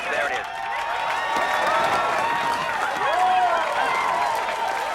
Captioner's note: crowd cheering